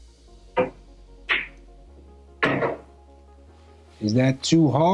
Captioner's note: balls clanging